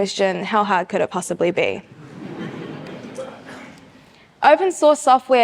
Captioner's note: audience chuckles